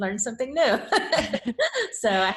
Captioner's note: laughs